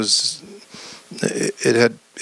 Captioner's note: none